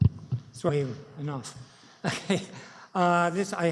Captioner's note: chuckles